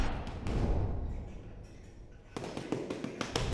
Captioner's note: blows landing